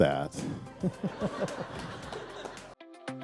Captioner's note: laughter